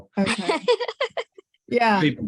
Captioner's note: laughs